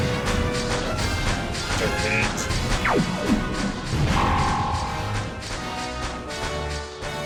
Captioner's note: laser blasts and explosions